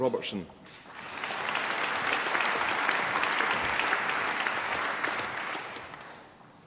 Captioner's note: applause